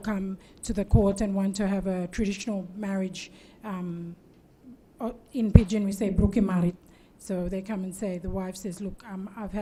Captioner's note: speaks in Tok Pisin